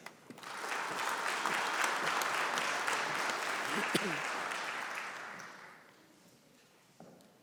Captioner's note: applause